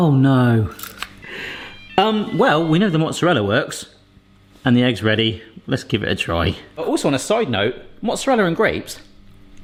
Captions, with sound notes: Oh no. (Appliance beeping) Well, we know the mozzarella works, and the egg's ready. Let's give it a try. Also on a side note, mozzarella and grapes: